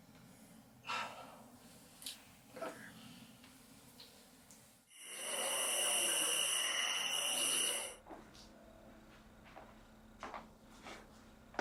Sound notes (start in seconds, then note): 0.9 Hannah sighs; 5.0 crickets chirp